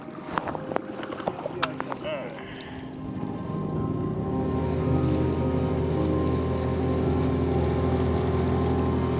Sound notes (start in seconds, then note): 0.1 gentle music; 5.2 engine purring